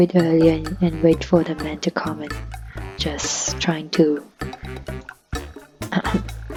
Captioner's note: hmmhmm